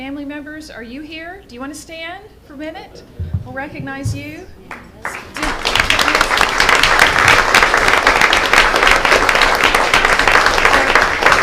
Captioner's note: applause